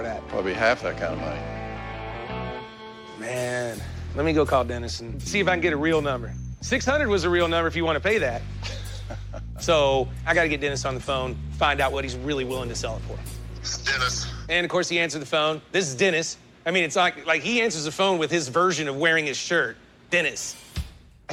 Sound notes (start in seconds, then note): 8.6 chuckles